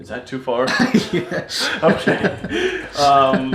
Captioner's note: laughs